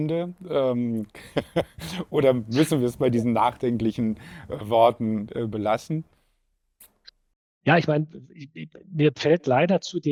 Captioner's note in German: gelächter